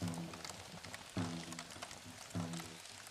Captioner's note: native american drumbeat; sound of flames crackling